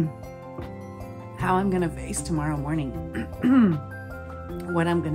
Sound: clears throat

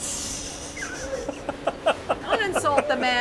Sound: all laughing

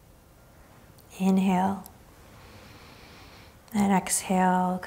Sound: inhaling deeply

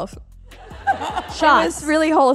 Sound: laughter

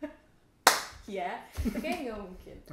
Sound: laughter

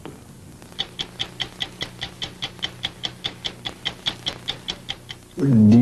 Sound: clock ticking

